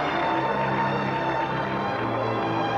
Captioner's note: applause and cheering